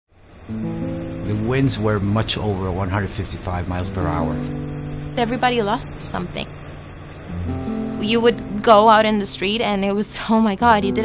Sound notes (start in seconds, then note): 0.0 winds bellowing